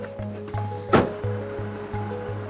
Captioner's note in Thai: เสียงปิดประตู